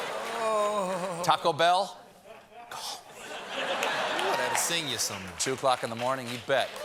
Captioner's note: audience reacts